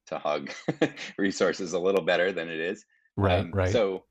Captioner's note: chuckling